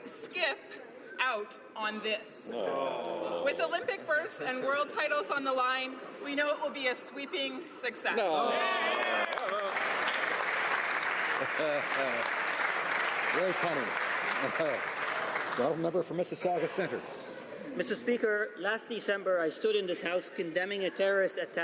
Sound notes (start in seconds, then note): 12.3 some Applause